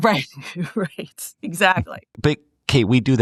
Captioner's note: laugh